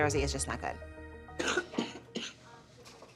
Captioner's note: coughs